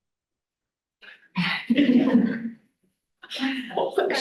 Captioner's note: laughing